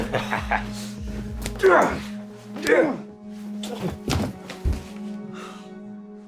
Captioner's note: boy laughing; Tim groaning